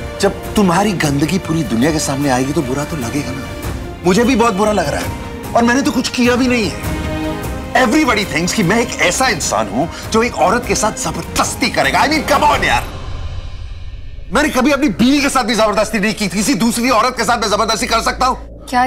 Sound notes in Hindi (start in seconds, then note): none